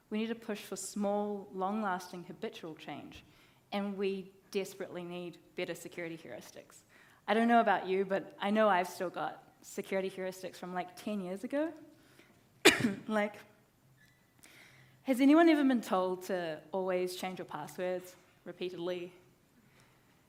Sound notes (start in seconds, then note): 12.6 coughs